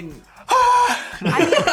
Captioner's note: Sean screams; Gavin and Chris laugh